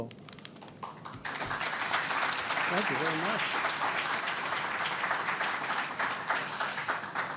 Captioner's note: applause